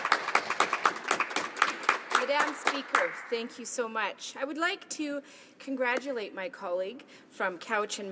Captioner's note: applause